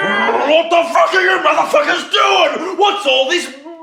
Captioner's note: yells